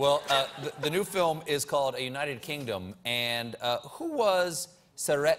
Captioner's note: laughter